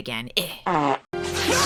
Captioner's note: farts